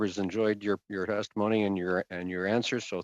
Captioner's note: speaking French